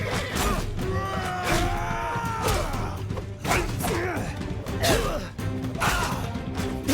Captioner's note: blows thudding; horse whinnying; blows thudding; warriors yelling